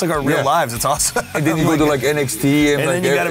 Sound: laughing

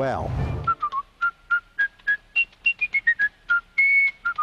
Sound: man whistling

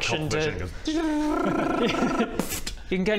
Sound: tdjrrraaaararararrraraaa-pfffpt

